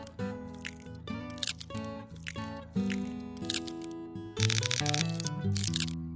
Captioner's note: music, and sounds of chewing